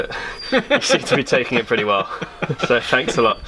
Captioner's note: laughs